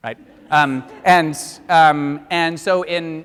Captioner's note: audience laughs